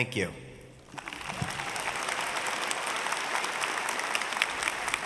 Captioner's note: audience cheering